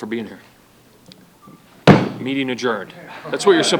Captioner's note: pounds table